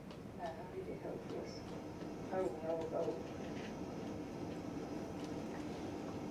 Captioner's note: woman speaks in foreign language